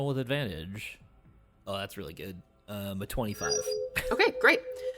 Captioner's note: omnitool chirps